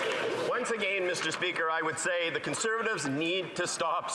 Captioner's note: some Applause